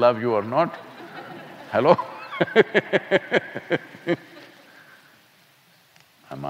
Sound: laughter; laughs

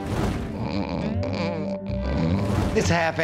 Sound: snoring

